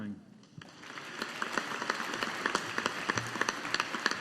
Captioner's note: audience applauding